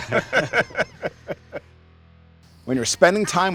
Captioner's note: laughs; people laugh